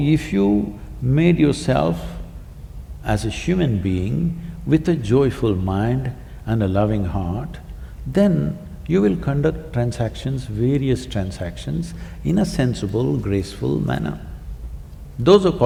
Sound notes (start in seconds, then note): none